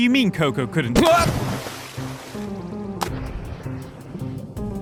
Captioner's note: splash!